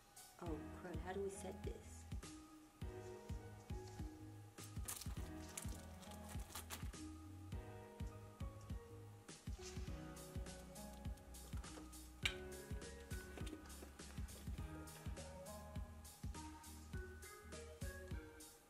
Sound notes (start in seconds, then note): 5.3 wrapping paper tearing; 9.6 soothing music